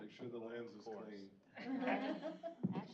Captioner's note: chuckle